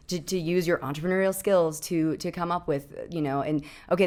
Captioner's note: none